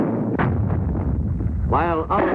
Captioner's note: artillery firing; explosions rumbling